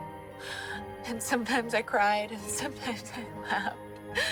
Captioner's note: gasps